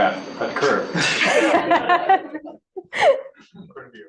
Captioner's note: laughter